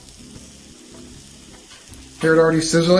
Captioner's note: sizzling